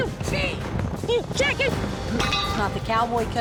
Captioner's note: bell clangs